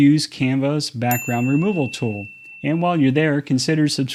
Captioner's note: bell ringing